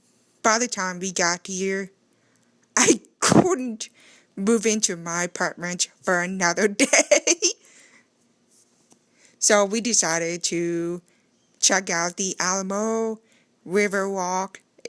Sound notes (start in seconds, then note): 6.8 laughing